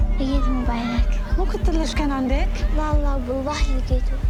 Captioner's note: foreign language